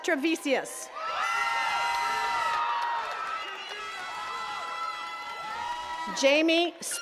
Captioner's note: attendees cheering and clapping